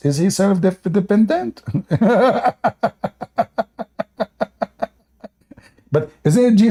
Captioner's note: Ketawa